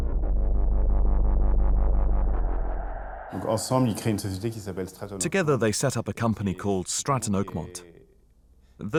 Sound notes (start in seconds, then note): 3.7 non-english speech